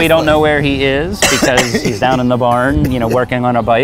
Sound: coughing

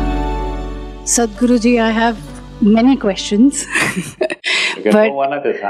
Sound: laughs

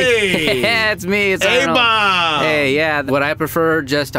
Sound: laughs

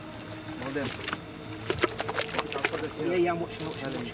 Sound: flapping

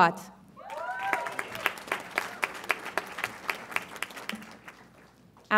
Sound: audience applauds and cheers

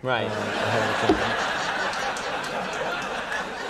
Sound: applause

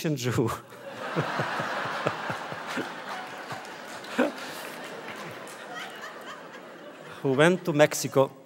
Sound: audience laughter

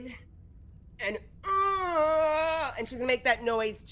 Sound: groans

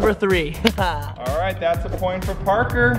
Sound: laughing

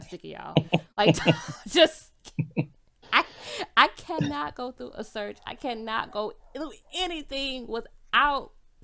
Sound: both laughs

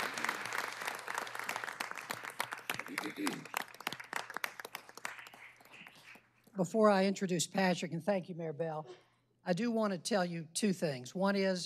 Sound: applause

